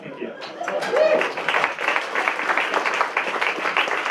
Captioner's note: applause